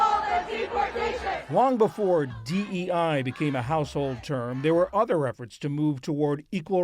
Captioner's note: voice-over